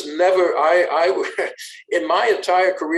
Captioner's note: chuckles